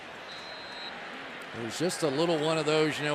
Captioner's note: whistle blows